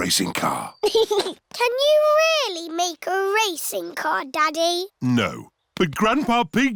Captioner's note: chuckles